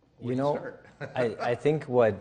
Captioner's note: laughs